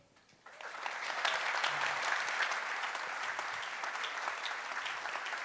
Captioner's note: applause